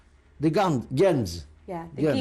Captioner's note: yiddish